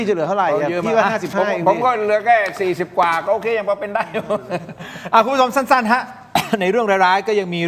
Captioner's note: laughs